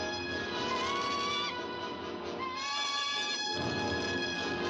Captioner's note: suspenseful music; bird squawks; suspenseful music